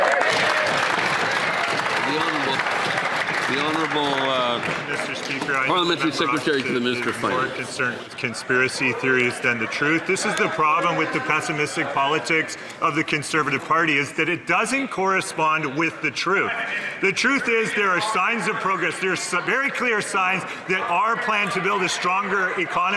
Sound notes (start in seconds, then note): 4.8 some Applause